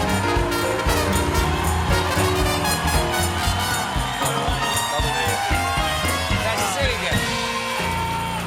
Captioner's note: band playing; cheers and applause; band playing; cheers and applause